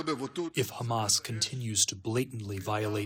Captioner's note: through translator